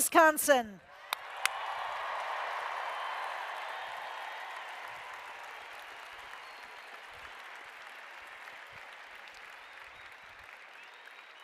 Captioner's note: applause